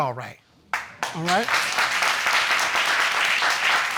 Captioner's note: audience applauding